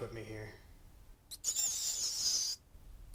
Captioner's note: rat squeaks